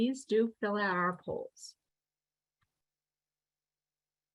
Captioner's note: pause; silence